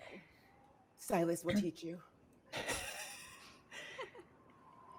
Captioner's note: laughing